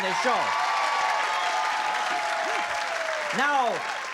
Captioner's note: cheering